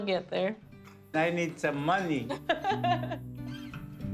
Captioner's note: laughs